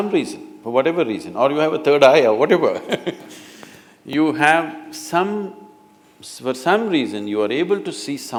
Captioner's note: laughs